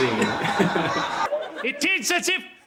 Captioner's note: laughs